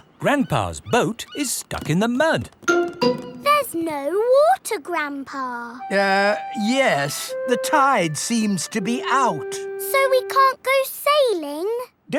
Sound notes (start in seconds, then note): none